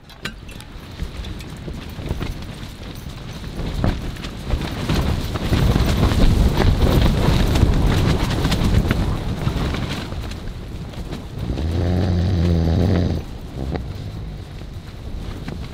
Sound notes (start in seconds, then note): 4.1 loud Wind Noises; 11.4 loud Snoring